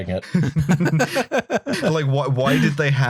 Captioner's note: laughter